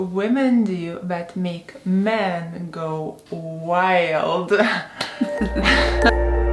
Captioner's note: giggles; soft music